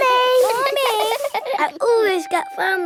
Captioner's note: all giggling